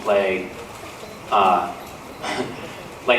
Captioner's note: laughs